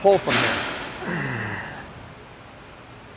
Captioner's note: grunts